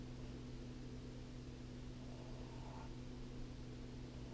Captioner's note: pen scratching